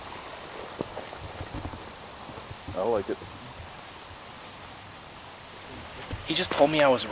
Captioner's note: wind